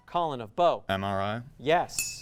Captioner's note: ding sound